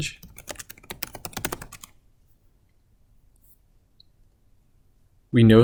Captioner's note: keys clicking on keyboard